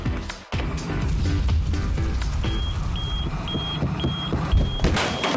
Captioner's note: alarm beeps